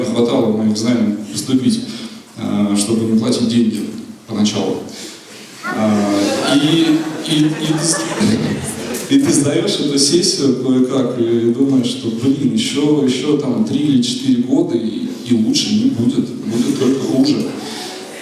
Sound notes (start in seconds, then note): 5.7 laughter